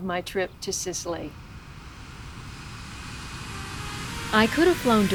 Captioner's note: sound of jet plane